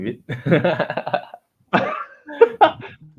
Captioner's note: laughs; laughter